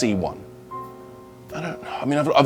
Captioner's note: exasperated sigh